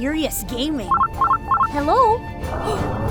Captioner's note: phone rings; gasps